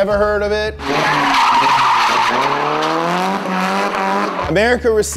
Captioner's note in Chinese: 轮胎尖叫